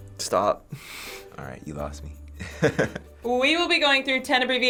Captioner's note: chuckles